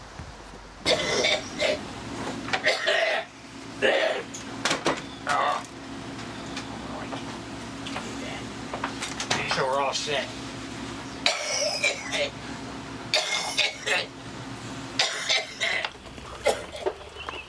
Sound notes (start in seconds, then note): 0.3 coughing; 10.9 coughing; 15.8 rain trickling